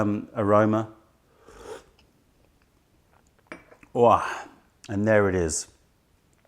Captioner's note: sips tisane